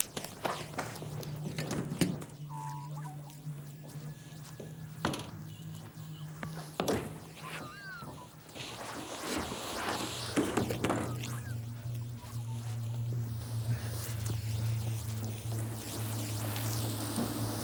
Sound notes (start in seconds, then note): 10.6 body thumping